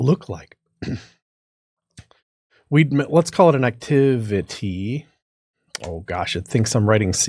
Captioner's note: cough